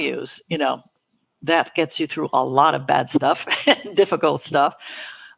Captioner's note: laughs